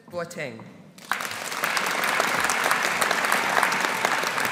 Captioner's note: audience applauding